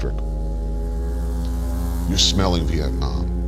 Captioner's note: motor whirs